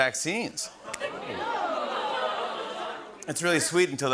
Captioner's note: audience "Oohs"